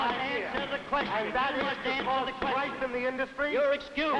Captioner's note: yelling into the mic